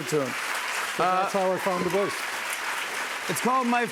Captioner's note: applause